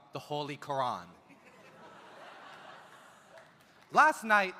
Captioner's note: audience laughs